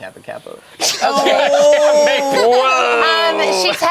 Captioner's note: group laughing